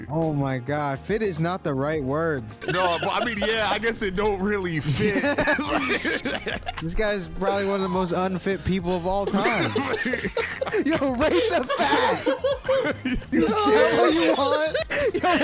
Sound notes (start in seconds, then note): 4.8 both laughing; 8.8 all laughing